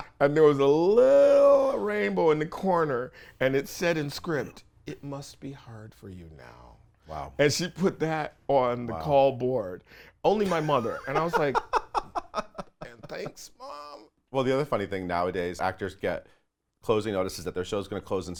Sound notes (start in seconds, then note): 10.4 laughs